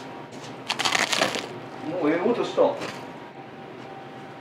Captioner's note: bread nibbling